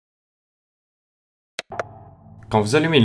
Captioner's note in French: clic